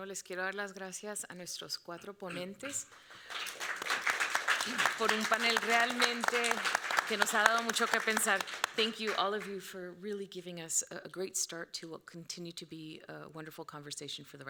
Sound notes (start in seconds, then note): 0.1 moderator speaking Spanish; 2.6 audience clapping; 5.4 moderator speaking Spanish